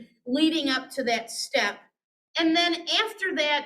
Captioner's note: none